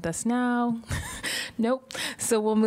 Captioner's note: laughter